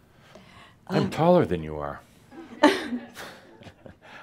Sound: she chuckles

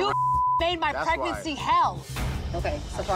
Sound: beep

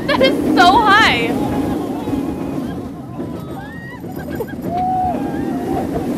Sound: people screaming and laughing

